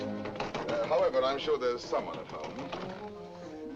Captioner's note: knocks at the door